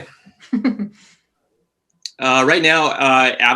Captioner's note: chuckles